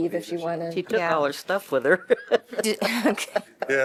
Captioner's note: laughter